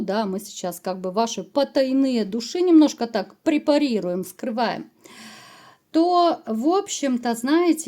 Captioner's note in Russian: тяжело вздыхает